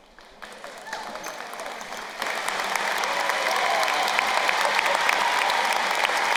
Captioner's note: crowd cheering and applauding